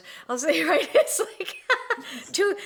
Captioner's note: laughs